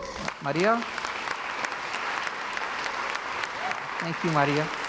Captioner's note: crowd applauds